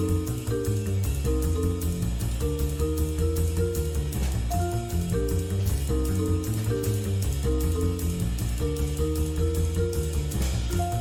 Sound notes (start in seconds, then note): none